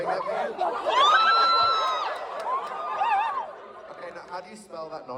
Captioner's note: audience cheers and barks